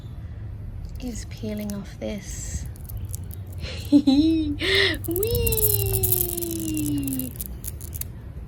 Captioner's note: giggles